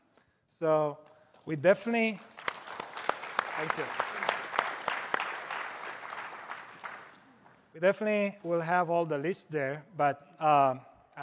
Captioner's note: applause